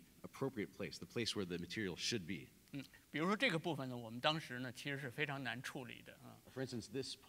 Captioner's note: speaking in Chinese